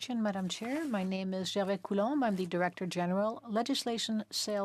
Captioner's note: speaking French